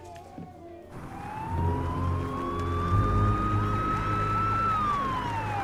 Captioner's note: sirens wailing